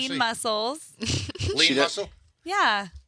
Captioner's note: chuckling